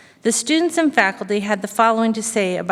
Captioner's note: none